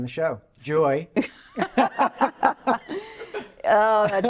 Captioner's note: laughing